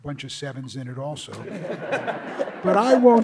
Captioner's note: audience laughs